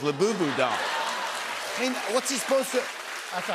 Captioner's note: laughter